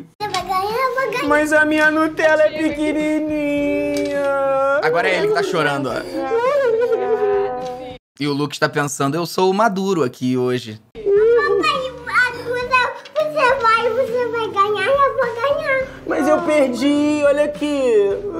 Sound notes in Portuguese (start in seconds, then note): 3.9 chorando; 10.9 chorando